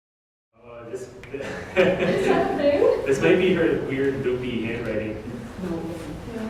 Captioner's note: laughter